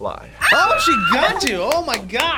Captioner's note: screams